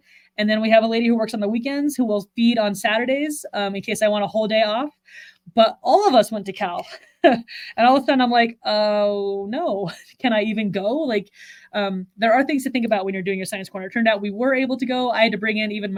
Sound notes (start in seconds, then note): 6.8 chuckles